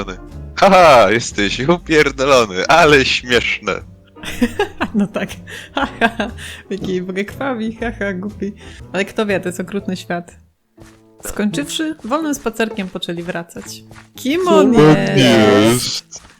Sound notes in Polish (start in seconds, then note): 4.2 śmiech